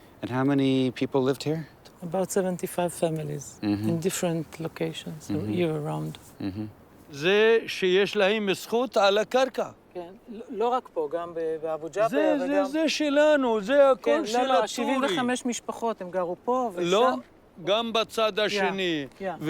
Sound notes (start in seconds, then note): 7.3 speaks Arabic; 10.5 speaks Hebrew; 12.2 speaks Arabic; 14.6 speaks Hebrew; 17.0 speaks Arabic